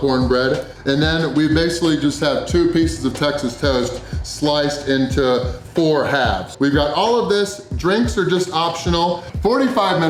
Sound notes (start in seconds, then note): none